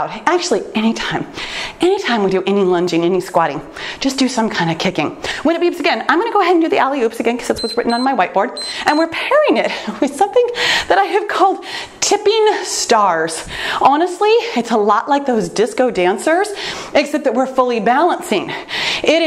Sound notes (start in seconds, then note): 7.5 timer beeps